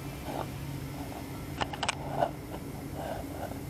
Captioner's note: camera rattling